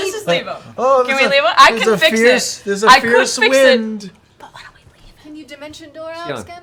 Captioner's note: whispers